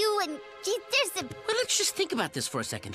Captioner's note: Becky stammers